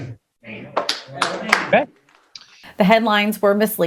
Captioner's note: audience claps hands